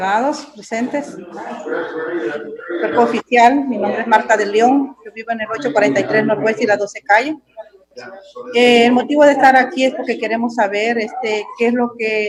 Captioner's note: speaking foreign language